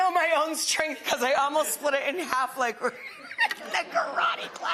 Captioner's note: laughing